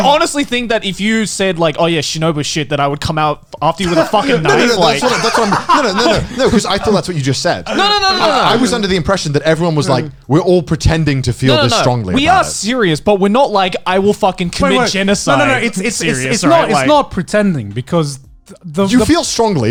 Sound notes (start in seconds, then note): 3.8 laughs